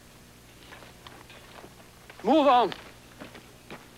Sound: none

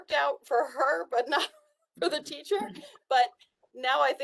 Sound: laughter

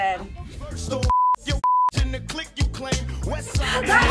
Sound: beep

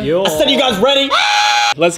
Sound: screams like a minion

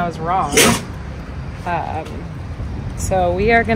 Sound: Camper sneezes

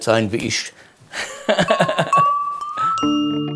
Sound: laughter; curious-dreamy music

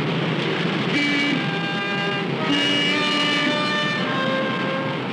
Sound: car horns honking

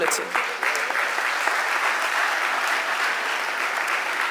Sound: audience applauding

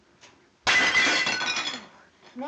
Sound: plate shatters

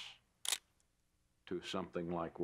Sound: camera shutter

